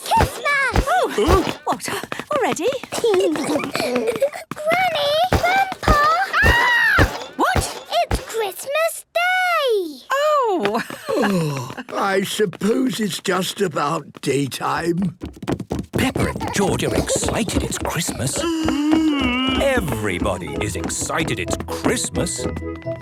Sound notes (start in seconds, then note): 0.0 exclamations; 2.8 giggling; 10.5 laughing